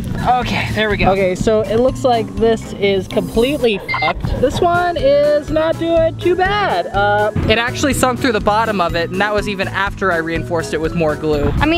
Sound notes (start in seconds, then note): 3.8 beep